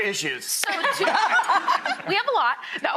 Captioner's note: laughing